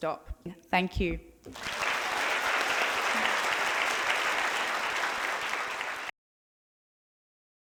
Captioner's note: applause